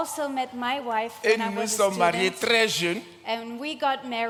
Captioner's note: continues in French